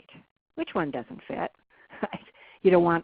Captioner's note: chuckles